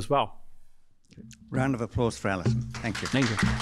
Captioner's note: applause